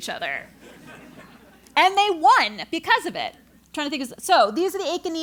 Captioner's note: laugh